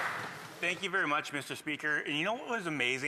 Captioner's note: some applause